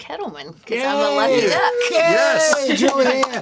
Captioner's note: all cheering